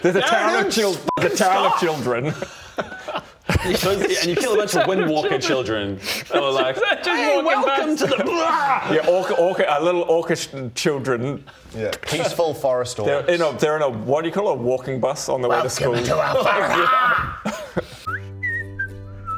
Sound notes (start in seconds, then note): 3.5 shameless giggles; 7.8 rwarrgghhghhghh!!